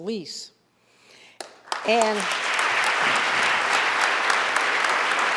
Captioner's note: audience applauding